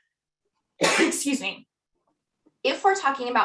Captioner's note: sneezes